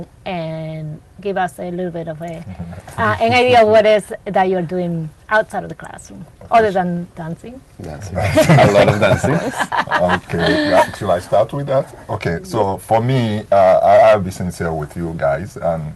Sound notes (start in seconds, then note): 8.2 laughs